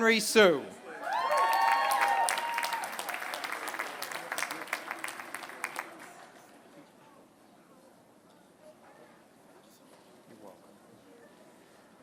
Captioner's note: applause